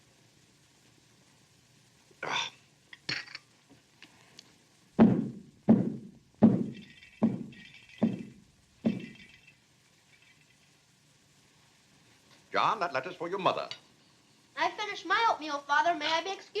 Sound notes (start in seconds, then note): 5.0 stomps foot; 6.4 clatters